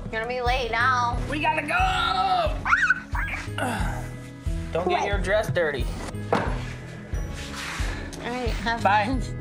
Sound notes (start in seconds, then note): 2.6 squealing